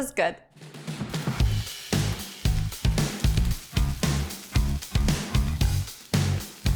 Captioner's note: lively music; food sizzling